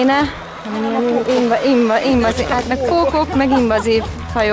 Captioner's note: laugh